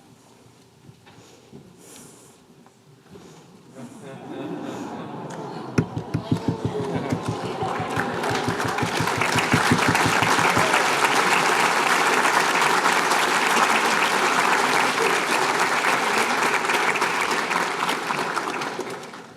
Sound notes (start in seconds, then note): 3.8 laughter; 5.1 crowd cooing; 8.1 applause